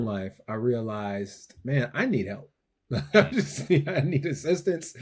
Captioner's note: laughs